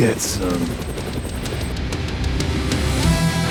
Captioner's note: helicopter blades whirring; upbeat music